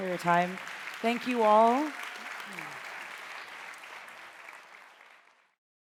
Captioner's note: audience applauding